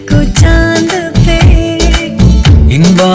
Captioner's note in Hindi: none